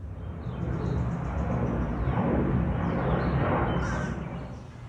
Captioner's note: airplane jet